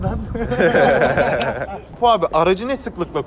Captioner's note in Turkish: gülüşmeler